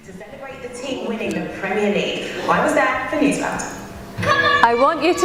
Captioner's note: noise from TV